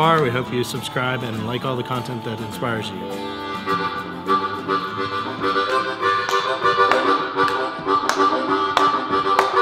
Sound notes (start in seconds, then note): 3.2 upbeat harmonica music; 6.4 clapping